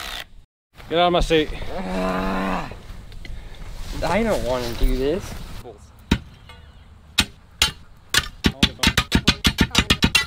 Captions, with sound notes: Get outta my seat. - Ughhh! I don't want to do this. (shovel chopping )